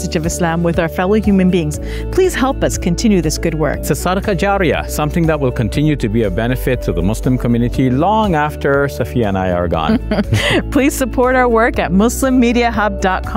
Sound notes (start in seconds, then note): 3.6 speaking in Arabic